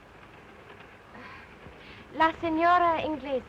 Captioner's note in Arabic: تتنهد ايريس